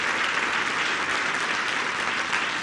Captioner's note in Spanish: aplausos